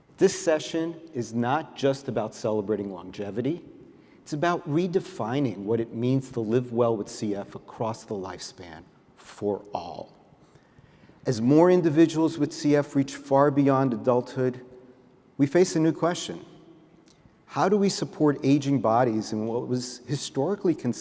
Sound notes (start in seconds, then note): none